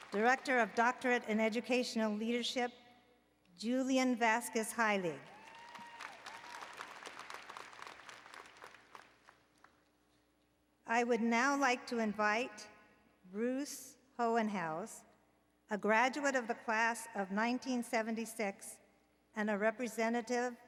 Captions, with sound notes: Director of the Doctorate in Educational Leadership, Julian Vasquez Heilig. [ Applause and Cheering ] I would now like to invite Bruce Hohenhaus, a graduate of the Class of 1976 and a representative